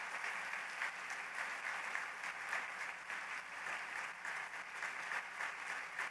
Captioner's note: applause